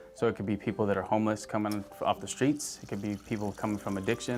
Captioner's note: water gurgles